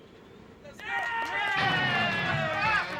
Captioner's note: cheering